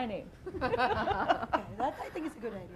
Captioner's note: laughing